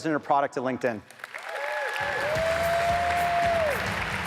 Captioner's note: audience applauds; upbeat music